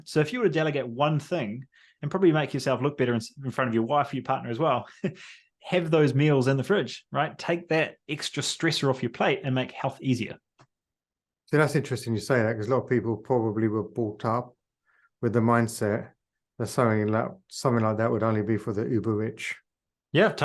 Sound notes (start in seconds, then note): 5.3 laughs